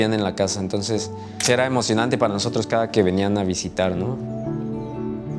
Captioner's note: camera clicks; soft music continues